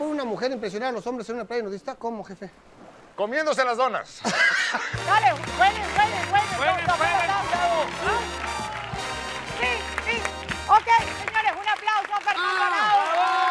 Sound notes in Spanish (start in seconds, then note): 4.2 Ríe